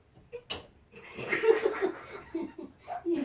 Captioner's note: laughter after light comes back on